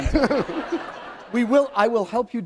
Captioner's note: laughter